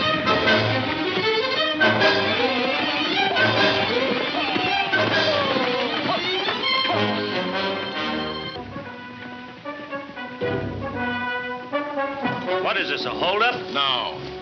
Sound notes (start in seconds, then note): 3.7 shouting gibberish; 7.2 heroic western music